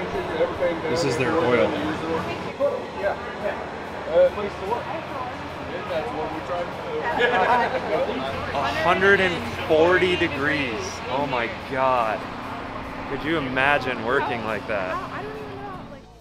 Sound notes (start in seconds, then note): 7.0 laughs; 15.7 whispers